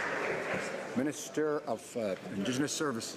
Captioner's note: some Applause